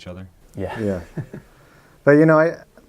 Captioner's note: laughs